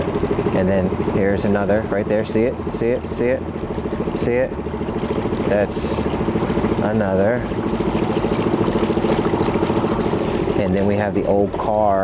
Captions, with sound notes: And then here's another right there. See it, see it, see it, see it? That's another. (boat engine purring) (water sloshing) And then we have the old car,